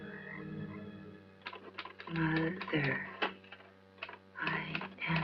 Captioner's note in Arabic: صوت الآلة الكاتبة والتعليق الصوتي